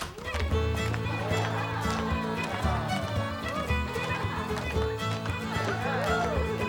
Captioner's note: students cheering; lively dance music